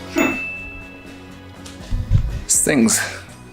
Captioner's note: rhythmic music; bell rings